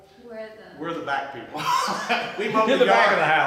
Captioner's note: laughs